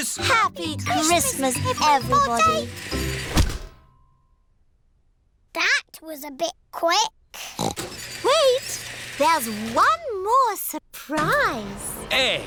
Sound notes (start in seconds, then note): 7.5 oinks